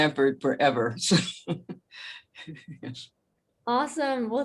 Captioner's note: laughs